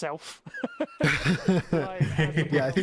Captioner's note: all laugh